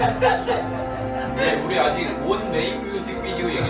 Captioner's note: hysterics